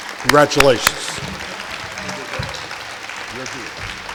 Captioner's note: clapping